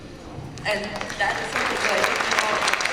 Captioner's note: applause